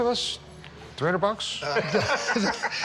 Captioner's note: laughter